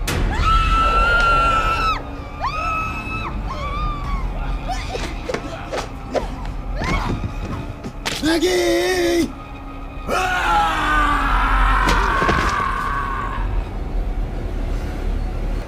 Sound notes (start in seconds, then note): 0.1 dramatic music; 0.1 woman screaming; 6.7 thudding; 10.0 screaming; 13.6 suspenseful music